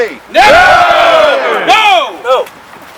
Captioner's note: crowd